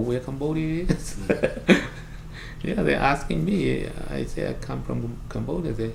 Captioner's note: laughs